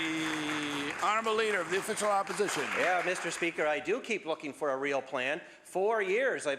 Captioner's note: applause